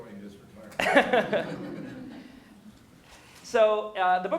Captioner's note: laughter